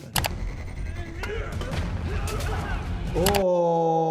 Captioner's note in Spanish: Los reclusos gruñen